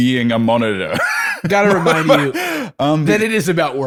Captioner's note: laughter